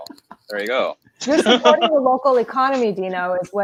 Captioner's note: laughing